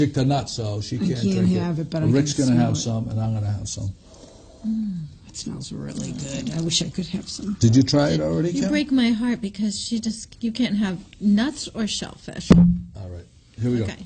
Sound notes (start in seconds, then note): 4.9 hums